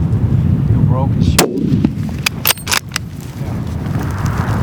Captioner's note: gun shot